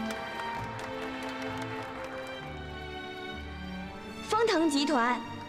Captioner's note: applause